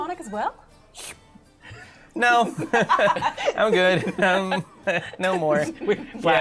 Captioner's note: slurps; laughter